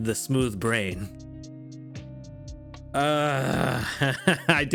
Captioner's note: groans